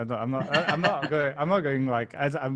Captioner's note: laughing